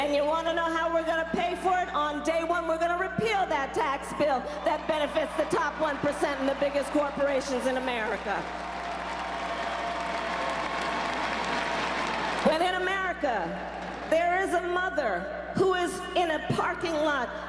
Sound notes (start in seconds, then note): 9.7 crowd cheers